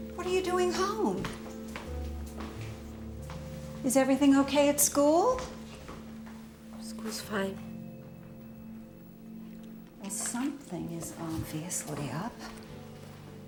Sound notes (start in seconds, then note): none